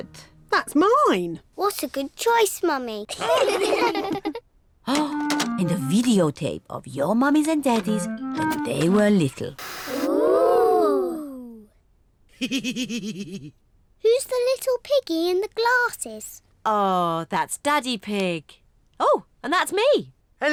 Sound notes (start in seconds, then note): 3.1 all laugh; 12.4 laughs